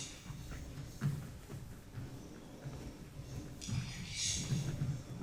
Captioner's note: footsteps thumping